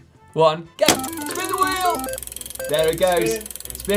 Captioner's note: wheel clicks and beeps